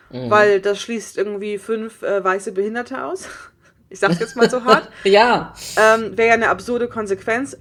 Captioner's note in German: lacht